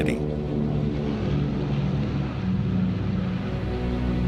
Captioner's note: airplane engine roaring